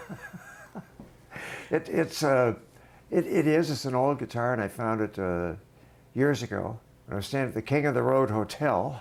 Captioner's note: laughter